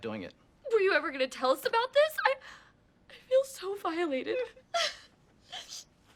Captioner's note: ANNIE cries